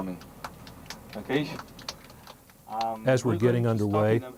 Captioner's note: applause